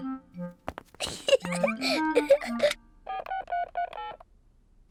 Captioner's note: giggles